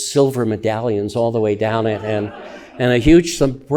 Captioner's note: audience laughing